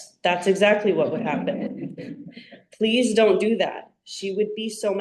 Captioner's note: audience laughter